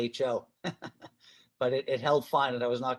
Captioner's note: chuckles